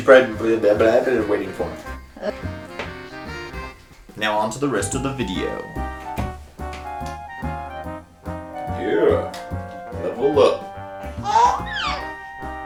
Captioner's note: baby Cooing